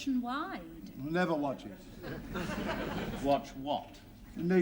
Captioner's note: laughter